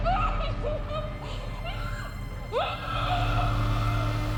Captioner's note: Miriam shouting